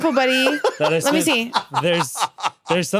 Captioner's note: laughs